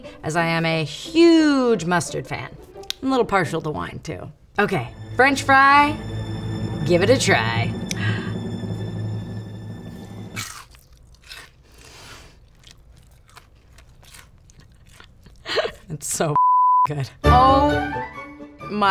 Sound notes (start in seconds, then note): 8.5 dramatic music; 10.3 sighs; 10.4 crunch; 14.6 laughing; 16.3 beep